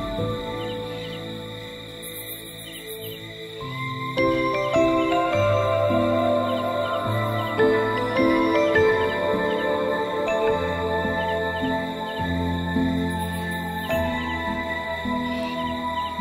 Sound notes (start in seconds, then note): 4.0 bells ringing